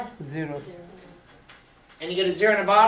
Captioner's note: voiceover